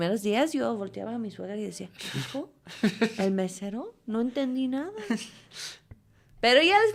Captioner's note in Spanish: risas